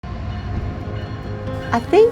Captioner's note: train clanging